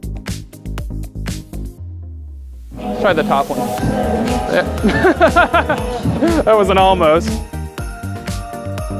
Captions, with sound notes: Let's try the top one. (Laughs) That was an almost!